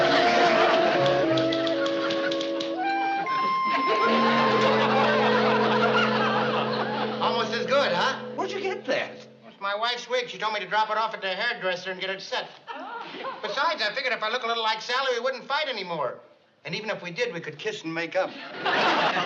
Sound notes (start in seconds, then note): 1.0 typing